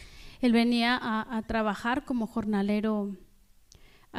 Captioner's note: speaking spanish